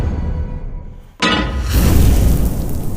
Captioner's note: clangs; sizzles